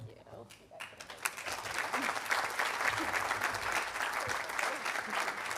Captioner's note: audience applauding